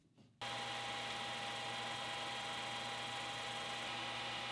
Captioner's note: machine whirring